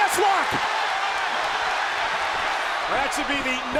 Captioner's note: crowd cheering